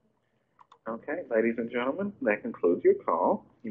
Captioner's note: voiceover